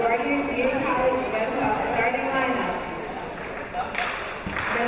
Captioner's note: chattering over intercom